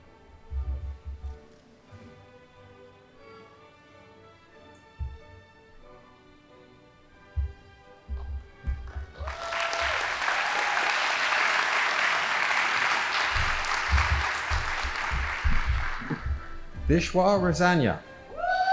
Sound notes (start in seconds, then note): 8.9 audience applauding